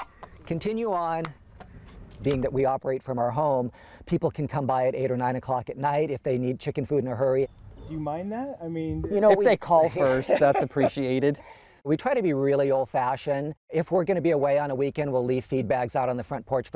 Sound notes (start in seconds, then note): 9.8 laughs